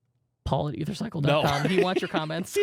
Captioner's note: softly giggling